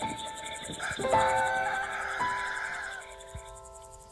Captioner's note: rooster crows